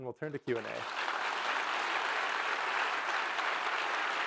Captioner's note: audience applauding